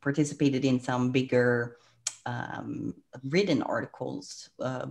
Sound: clicks tongue

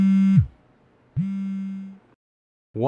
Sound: phone buzzing

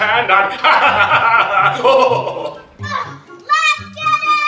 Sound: laughing

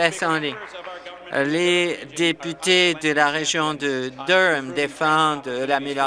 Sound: applause

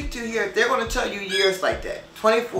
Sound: parakeet screeches

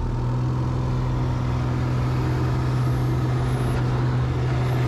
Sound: engine roaring

